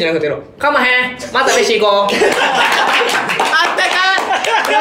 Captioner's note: in heavy Kansai dialect